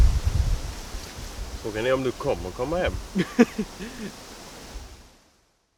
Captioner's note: nervous laughter